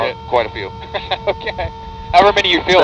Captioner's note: chuckles